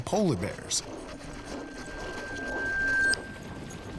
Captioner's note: high-pitched tone